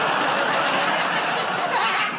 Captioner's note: laughter